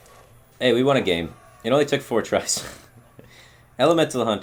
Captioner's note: chuckle